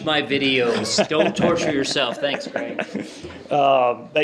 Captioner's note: laughter